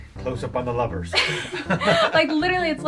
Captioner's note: both laughing